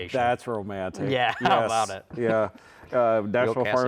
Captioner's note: laughs